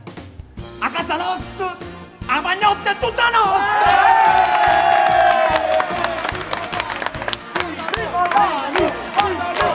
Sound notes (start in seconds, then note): 3.0 crowd cheers